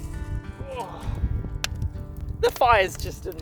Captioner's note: grunts